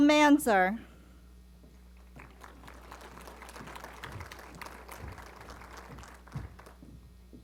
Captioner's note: applause